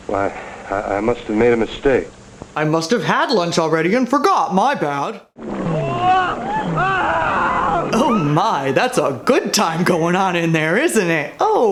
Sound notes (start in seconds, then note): 5.6 screaming